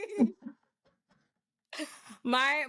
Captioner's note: laughing